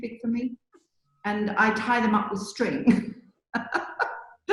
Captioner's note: laughs